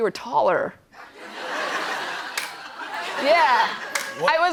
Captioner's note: laughter